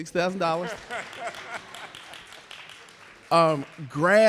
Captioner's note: audience clapping; laughing